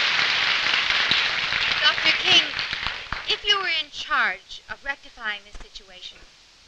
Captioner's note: applause